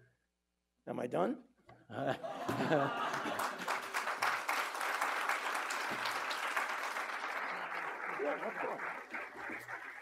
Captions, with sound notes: Am I done? (chuckles) (audience chuckling) (audience applauding) Yeah, of course.